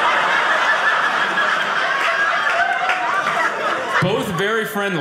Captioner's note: audience laughing